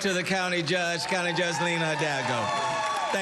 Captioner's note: cheering